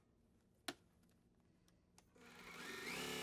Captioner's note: sewing Machine